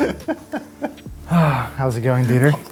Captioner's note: laughs